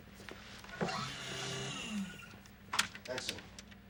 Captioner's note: machine whirring